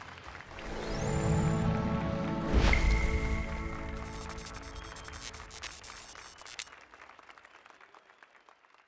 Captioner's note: applause and cheers